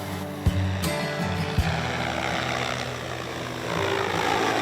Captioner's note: drone humming